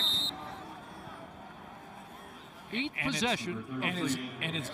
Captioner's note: crowd din; noisemakers